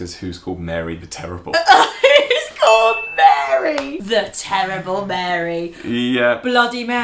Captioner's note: laughter